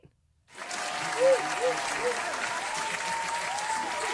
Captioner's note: cheers